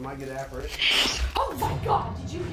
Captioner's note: spirit box voice